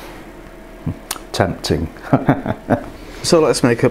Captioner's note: laughs